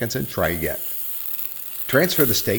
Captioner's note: steak sizzling